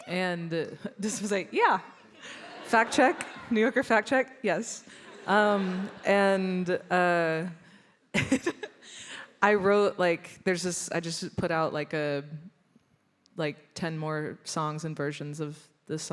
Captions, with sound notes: and this was like, yeah, fact check "New Yorker" Fact Check. Yes. And [laughs] I wrote like, there's this, I just put out like 10 more songs and versions of the songs.